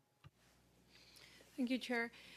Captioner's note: speaking French